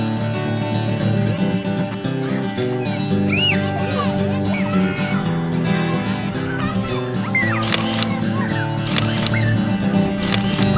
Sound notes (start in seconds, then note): 3.2 children shriek; 8.8 camera clicks